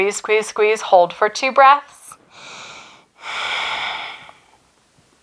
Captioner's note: breaths heavily